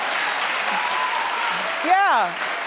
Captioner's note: audience cheering